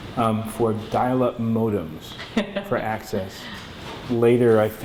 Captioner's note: laughter